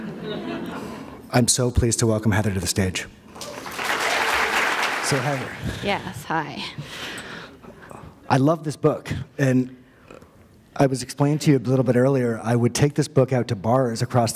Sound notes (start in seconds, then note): 0.0 laughter; 5.0 applause